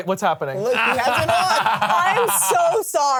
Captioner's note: laughs